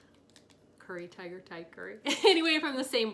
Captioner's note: laughs